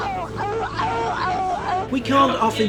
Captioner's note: yelping